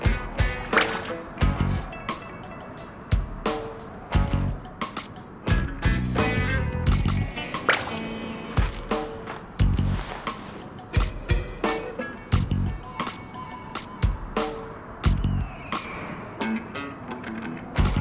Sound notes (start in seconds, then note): 0.7 high pitched ping; 7.4 crunching of sand; 7.6 high pitched ping